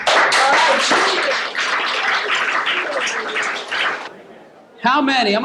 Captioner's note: cheers and applause